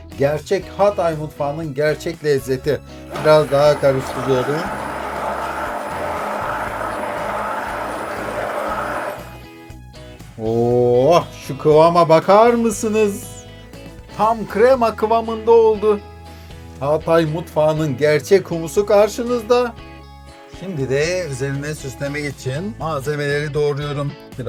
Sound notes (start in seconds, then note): 4.8 blender noise